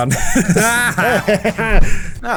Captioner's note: laughing